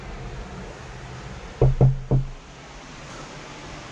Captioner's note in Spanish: golpea la puerta